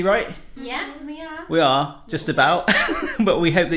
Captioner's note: laughing